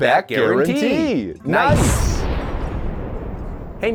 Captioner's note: explosion